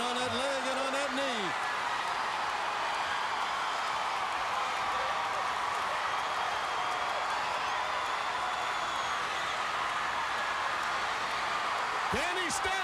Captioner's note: crowd cheering